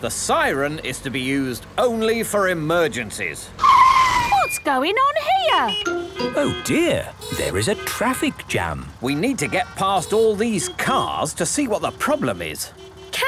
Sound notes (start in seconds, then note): 3.8 brakes screeching; 5.4 honking